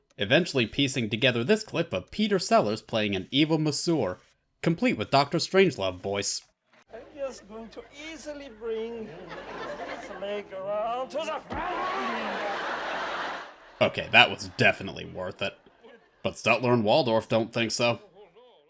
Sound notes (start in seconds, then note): 11.1 Link hollers; 11.3 audience in hysterics